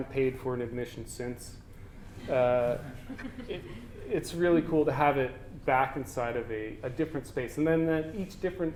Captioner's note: audience: Laughter